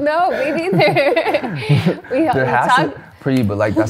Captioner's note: laughs